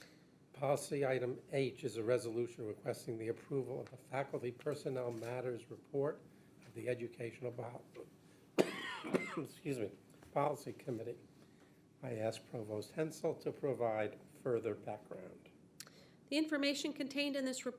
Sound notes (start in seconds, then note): 8.6 coughs